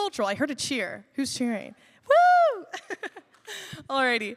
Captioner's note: laughs